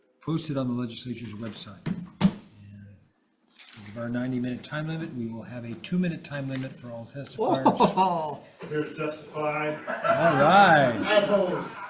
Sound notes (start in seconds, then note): 7.4 member chuckles; 9.6 members laughing; 11.6 duck mumbling; 11.6 laughing continues